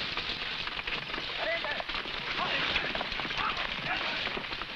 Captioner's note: men shouting